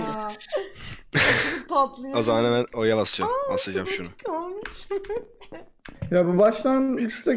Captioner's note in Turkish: gülme